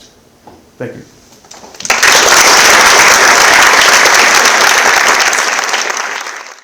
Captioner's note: applause